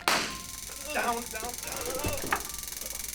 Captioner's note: taser pops; groans